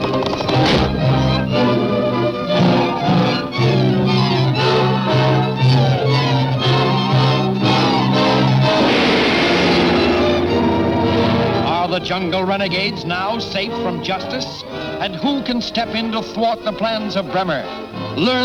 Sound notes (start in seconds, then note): 0.0 bridge snaps; 1.6 dramatic music continues; 8.8 gun fires